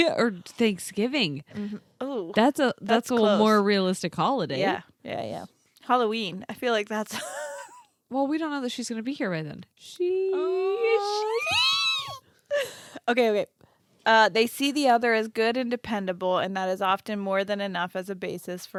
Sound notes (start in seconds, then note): 7.2 giggles; 11.4 high pitch squeals